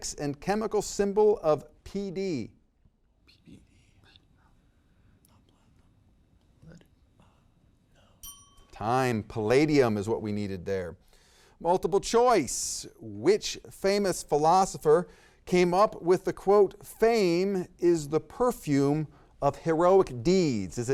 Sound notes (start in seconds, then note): 4.2 students whisper; 8.2 bell dings